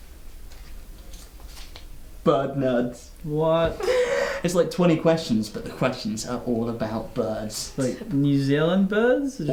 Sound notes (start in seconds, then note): 3.8 gasping